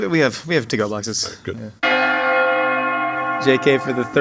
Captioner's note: bell chiming